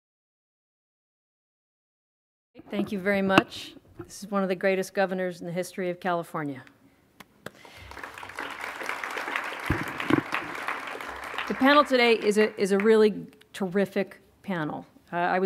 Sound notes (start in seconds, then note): 7.6 audience applauding